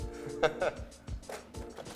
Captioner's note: laughter